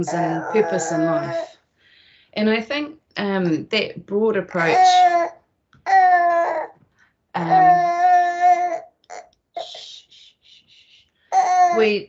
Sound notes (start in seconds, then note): 5.8 baby cries